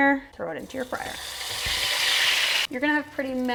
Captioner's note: sizzling and spattering of hot oil